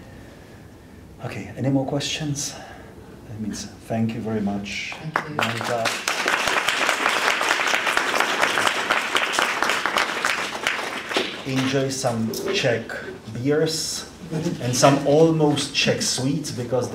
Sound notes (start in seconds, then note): 4.9 applause